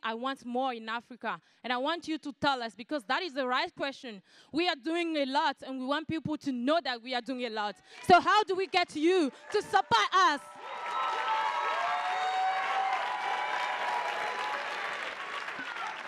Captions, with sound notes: I want more in Africa and I want you to tell us because that is the right question. We are doing a lots and we want people to know that we are doing a lot. So how do we get you to support us? (attendees applauding and cheering)